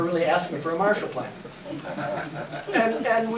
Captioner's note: laughter